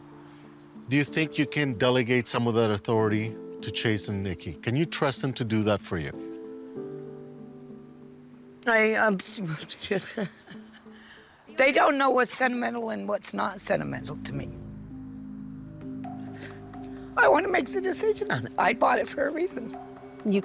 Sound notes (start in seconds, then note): 10.0 laughing